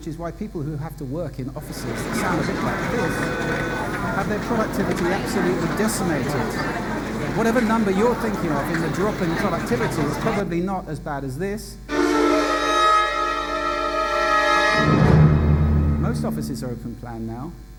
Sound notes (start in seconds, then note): 3.4 office noises